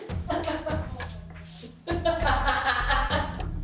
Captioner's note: laughing